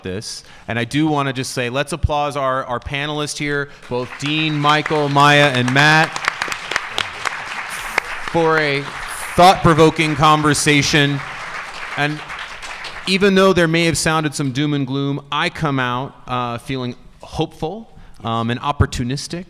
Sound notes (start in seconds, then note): 5.9 audience applauding